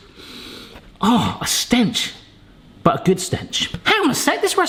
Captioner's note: sniffs